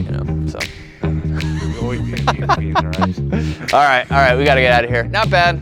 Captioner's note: laughs